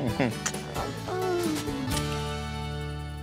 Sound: smooch

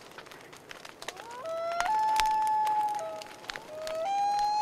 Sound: wolf howling

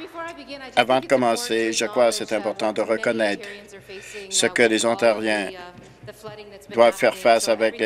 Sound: applause

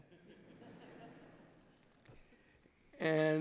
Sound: laughter

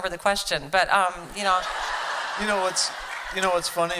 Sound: laughter

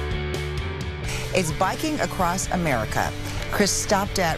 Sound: voiceover

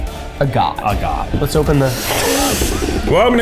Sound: inhales

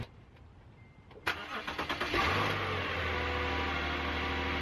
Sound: sound of car starting

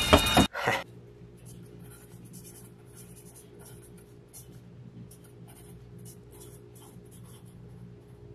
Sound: scratching of pencil

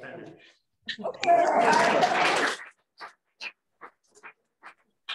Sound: applause

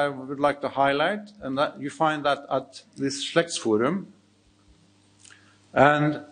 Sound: speaks in foreign language

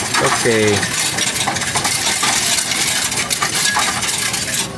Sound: coins rattling

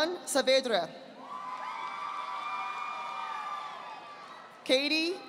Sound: audience applauding

